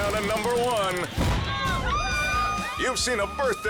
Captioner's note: crowd screaming